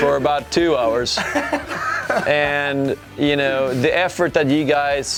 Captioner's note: laughing